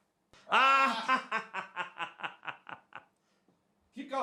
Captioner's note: laughs